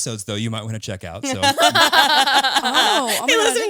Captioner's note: all laughing